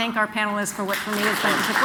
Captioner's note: applause